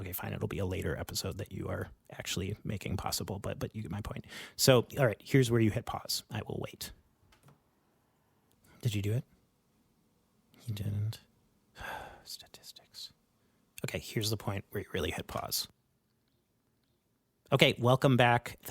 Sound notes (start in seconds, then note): 11.0 silence; 11.9 sighs; 12.4 whispers; 17.0 silence